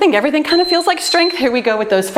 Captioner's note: timer beeps